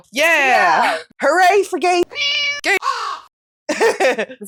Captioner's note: meow; caw